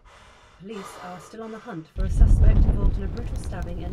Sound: over the radio

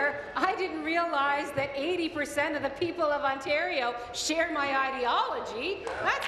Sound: applause

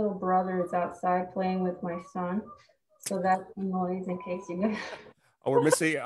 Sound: chuckles

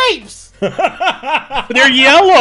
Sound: laughs

